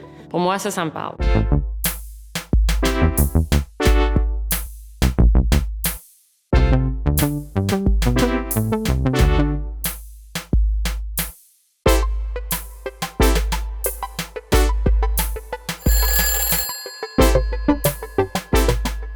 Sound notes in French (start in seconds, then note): 15.8 sonnerie de téléphone